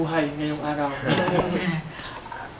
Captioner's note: everyone laughs